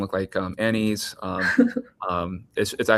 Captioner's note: chuckles